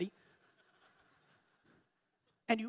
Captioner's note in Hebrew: הקהל צוחק